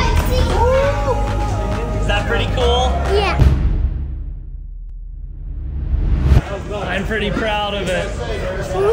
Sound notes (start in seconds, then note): 4.0 text clunks; 5.5 dramatic rumble